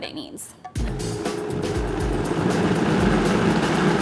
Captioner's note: blender whirling